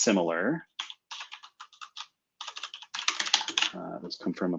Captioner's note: typing